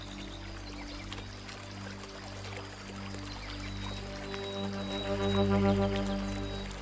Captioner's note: birds chirping; water burbling